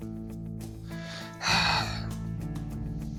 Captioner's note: sighs